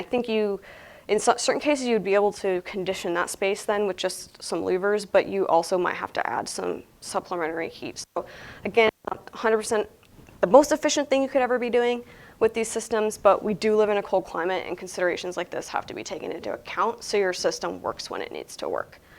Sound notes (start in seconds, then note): none